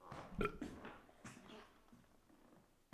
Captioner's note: Jacob burps